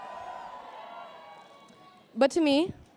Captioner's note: applause